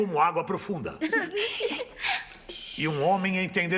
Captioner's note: giggling